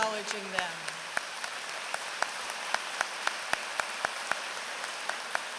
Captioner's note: applause